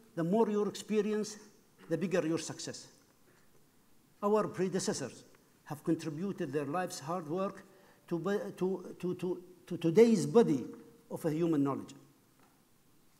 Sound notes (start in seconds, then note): none